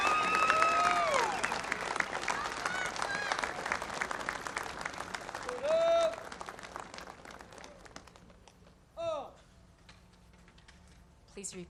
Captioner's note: cheers and applause